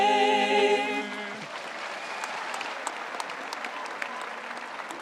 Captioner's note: audience applauds